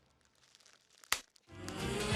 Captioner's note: pop